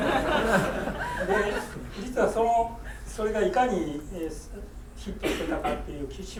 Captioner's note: laughing; speaking in foreign language; coughing